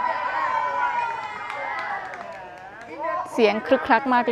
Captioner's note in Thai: เสียงเชียร์